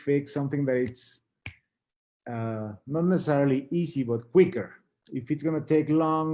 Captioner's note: snaps finger